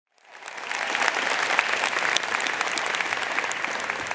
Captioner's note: audience applauding